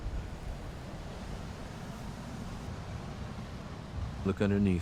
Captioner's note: waves continue crashing